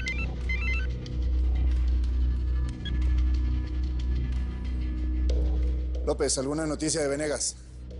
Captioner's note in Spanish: Suena el celular